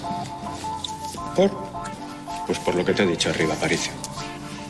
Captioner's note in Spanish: lloroso